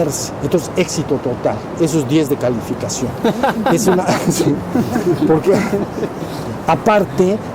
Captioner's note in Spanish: Risas